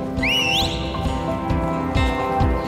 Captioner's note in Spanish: Silbidos